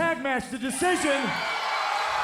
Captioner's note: applause